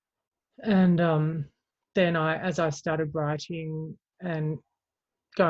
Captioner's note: none